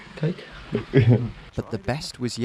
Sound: laughing

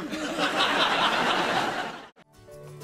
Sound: audience laughs

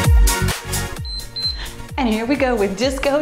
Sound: timer beeps

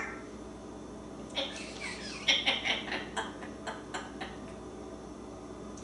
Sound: laughing

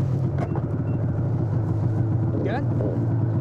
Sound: snowmobile motor starts up

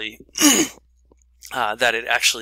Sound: clears throat

